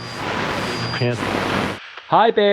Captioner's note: radio whirring